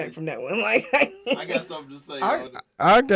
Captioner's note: laughing